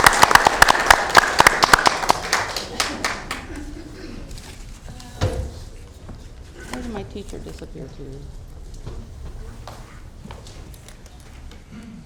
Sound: applause

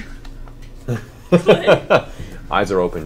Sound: all laugh

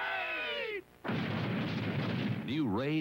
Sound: series of explosions

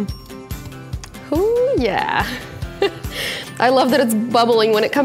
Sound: laughs

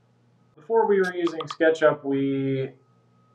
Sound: tapping sound

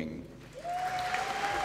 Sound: applause

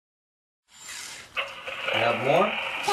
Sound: toy engine revs

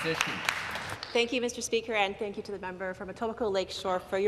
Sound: applause

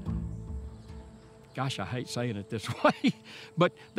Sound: laughs

